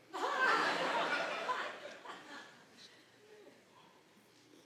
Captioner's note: audience laughing